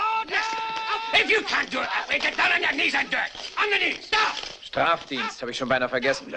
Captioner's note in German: Mann schreit